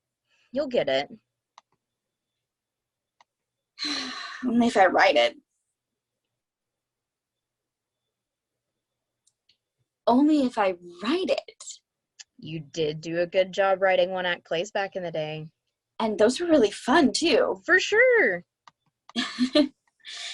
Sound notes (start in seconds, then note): 3.8 sighs